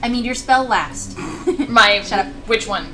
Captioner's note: snickers